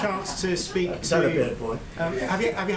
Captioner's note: laughter